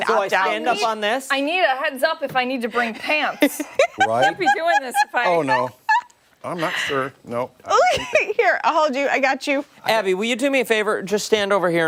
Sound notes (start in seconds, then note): 7.8 laughter